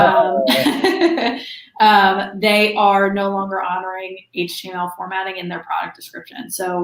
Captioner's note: laughs